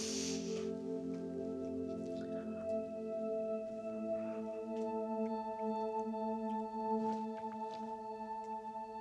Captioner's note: sniffles; somber music playing